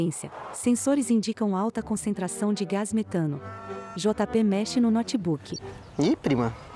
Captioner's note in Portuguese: Mugidos